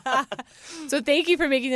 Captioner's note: laughter